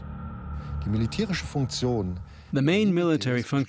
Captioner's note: speaking German